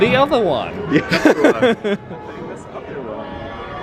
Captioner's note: laughs